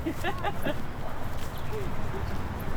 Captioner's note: laughing